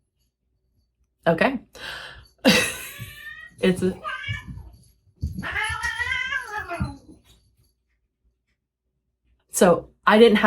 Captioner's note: cats screeching